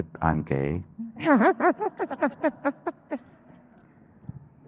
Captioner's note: laughing